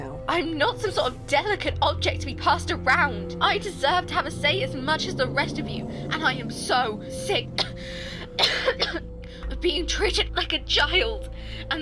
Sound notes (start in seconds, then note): 7.5 coughing